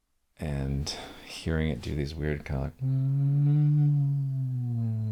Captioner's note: humming